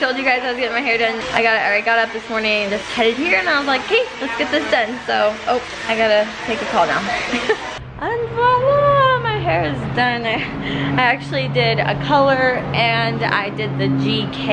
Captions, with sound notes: I told you guys I was getting my hair done. I got up this morning, just headed here, and I was like, "'Kay. Let's get this done." So. Op. I gotta take a call now. (laughing) And voila! My hair is done. I actually did a color and I did the GK keratin